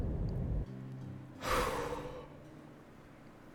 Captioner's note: heavy, relieved sigh